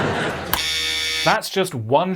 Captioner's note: buzzer